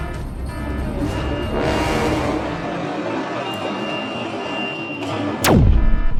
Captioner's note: hanger doors closing; zap